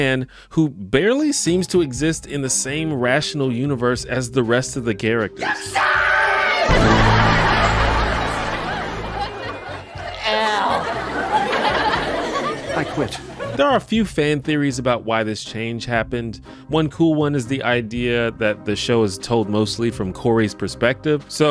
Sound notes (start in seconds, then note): 5.4 screams